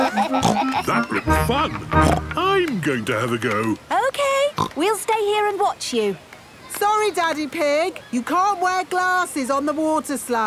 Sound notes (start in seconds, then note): 0.1 snorts